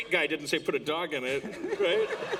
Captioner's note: laughter